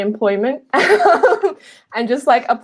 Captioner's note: laughing